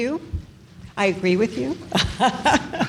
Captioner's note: laughs